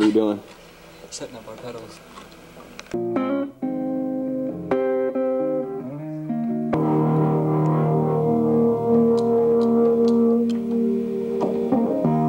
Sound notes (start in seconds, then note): 3.2 guitar riff; 10.0 quiet clicking